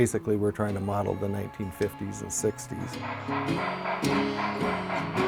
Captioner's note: training chugging